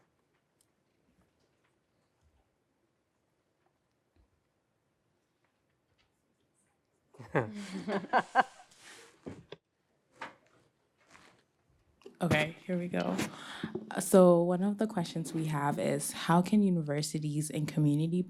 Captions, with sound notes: [LAUGHTER] OK, here we go. So one of the questions we have is, how can universities and community